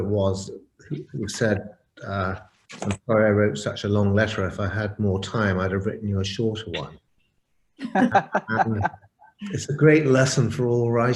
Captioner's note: laugh